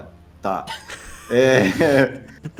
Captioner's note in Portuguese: risadas